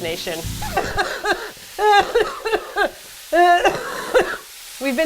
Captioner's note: coughing